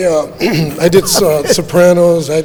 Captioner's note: clears throats